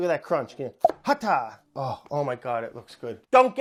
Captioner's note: plop